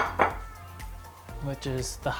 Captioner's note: plate clanks on table